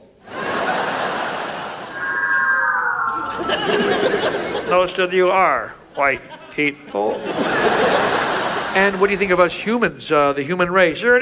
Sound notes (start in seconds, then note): 0.2 audience laughs; 1.9 whooshes; 2.8 group laughs; 7.4 audience laughs